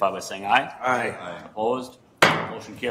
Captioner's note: multiple voices; gavel bangs